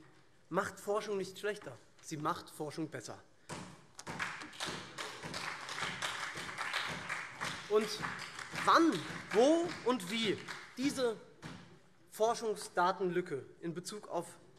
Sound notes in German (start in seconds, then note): 3.9 Beifall SPD, CDU und vereinzelt BÜNDNIS 90/DIE GRÜNEN